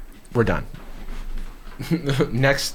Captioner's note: laughs